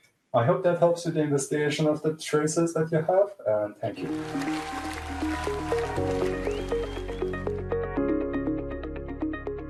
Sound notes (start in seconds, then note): 4.0 cheers, applause